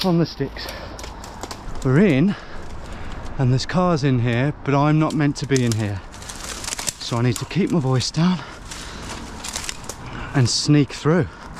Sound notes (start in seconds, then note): none